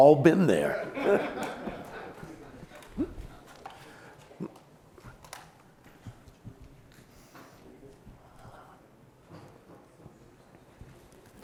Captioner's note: laughter